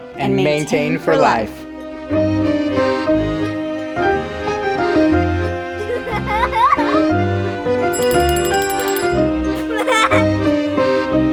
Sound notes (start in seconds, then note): 2.0 gentle music; 5.7 kid laughing; 7.9 bell ringing; 9.6 kid laughs